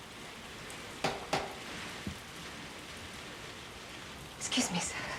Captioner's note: knocking at door